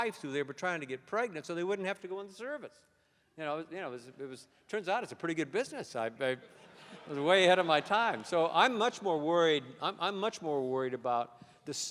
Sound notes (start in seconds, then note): 6.6 laughter